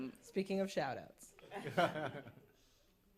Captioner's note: laughter